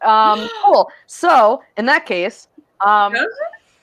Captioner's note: gasps